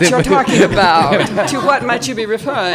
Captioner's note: panelists laughing